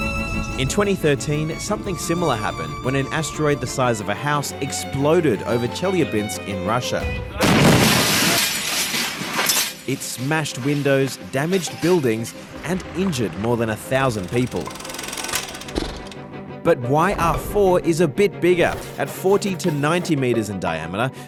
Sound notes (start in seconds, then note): 7.4 explosion; 14.9 sighs